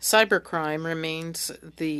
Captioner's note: speaking French